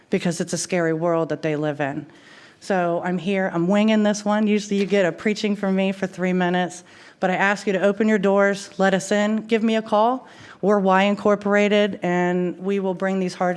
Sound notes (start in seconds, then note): none